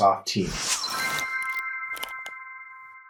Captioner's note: whooshing; chiming; typing